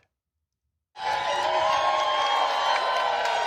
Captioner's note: cheering